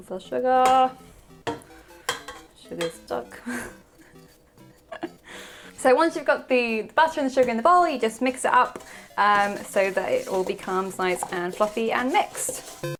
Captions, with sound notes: And a little sugar. Sugar's stuck. (laughs) So once you've got the butter and the sugar in the bowl you just mix it up so that it will become nice and fluffy and mixed.